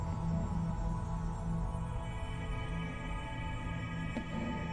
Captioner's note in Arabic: none